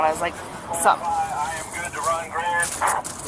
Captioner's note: radio chatter